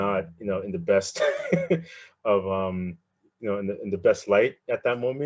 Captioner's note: laughing